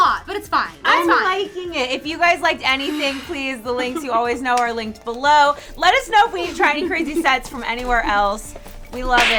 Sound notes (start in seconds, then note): 2.8 whoosh